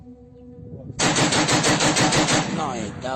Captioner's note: gunfire